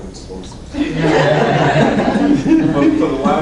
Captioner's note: laughing